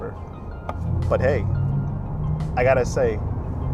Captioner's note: car whooshing